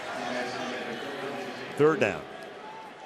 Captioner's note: pa announcement